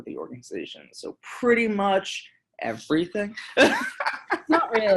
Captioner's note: laughing